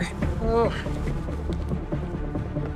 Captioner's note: groans